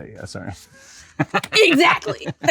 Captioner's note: laughs